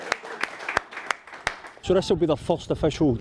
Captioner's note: all clapping